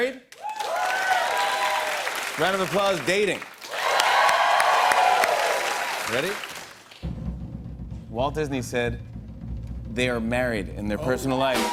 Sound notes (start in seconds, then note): 0.3 cheers and applause; 7.0 drumroll